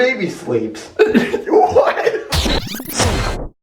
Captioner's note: lols